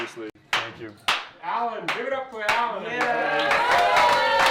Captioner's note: cheering